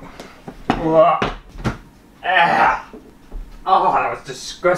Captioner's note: casual Vomiting Sounds